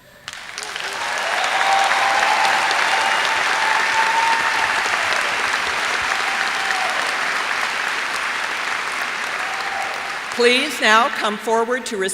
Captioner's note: cheers and applause